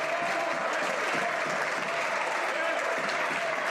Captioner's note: some Applause